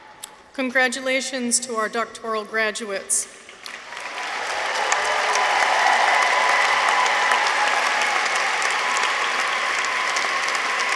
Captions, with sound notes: Congratulations to our Doctoral Graduates. -(audience cheers) -(audience applauds)